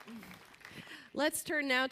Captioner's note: applause